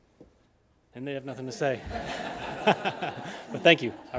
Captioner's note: group laughing